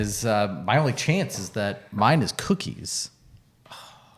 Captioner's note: sighs